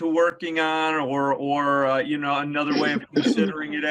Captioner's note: clears throat